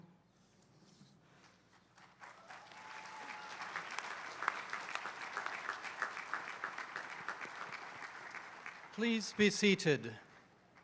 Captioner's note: applause